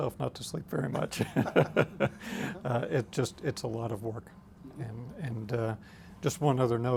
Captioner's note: laughs